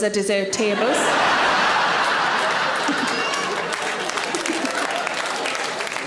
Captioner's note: audience laughing and clapping